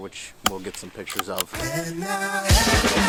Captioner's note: rifle bolt chambers; rifle fires; upbeat music